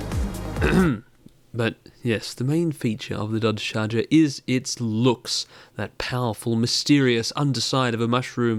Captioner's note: ahem